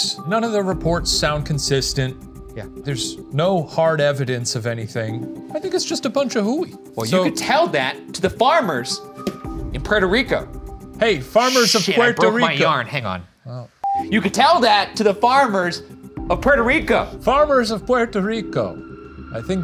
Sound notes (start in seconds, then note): 13.8 film beeping